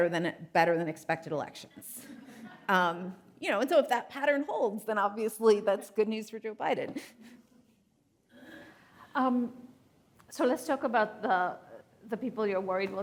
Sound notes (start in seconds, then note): 2.1 audience laughing; 8.2 chuckles